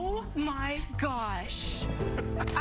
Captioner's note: laughing